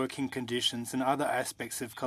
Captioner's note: speaking french